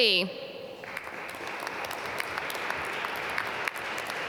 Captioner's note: applause